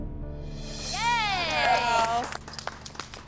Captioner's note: cheers and clapping